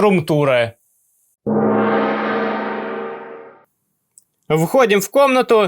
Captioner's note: gong